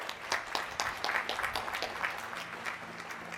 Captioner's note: applause